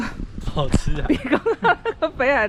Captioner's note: laughs